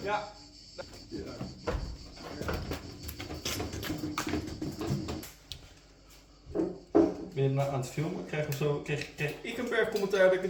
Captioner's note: dutch chatter